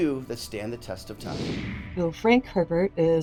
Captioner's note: screen whooshing